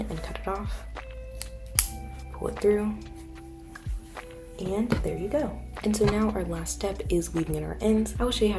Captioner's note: scissors cut